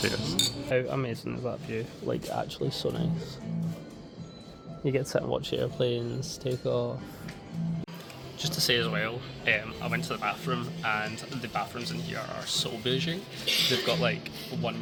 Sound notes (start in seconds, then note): none